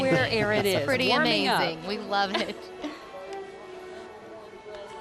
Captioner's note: laughing